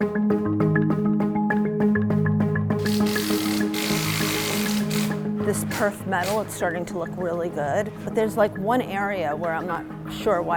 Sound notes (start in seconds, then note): 0.6 cheerful marimba music; 2.8 drill whirring